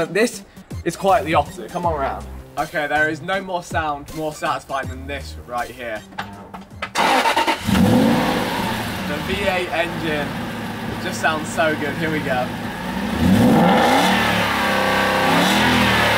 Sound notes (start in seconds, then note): 6.9 engine staring; 13.4 engine raving